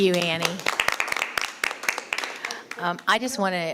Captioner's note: all applauding